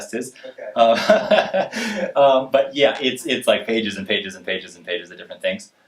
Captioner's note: laughs